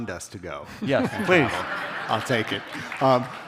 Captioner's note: audience laughter